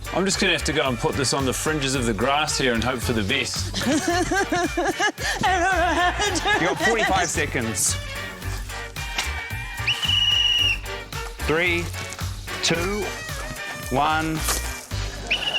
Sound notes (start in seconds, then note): 3.6 pants, sobs; 9.6 blows whistle